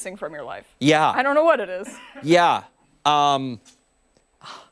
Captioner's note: laughter